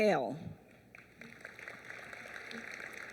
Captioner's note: applause